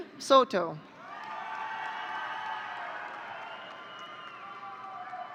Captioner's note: audience cheering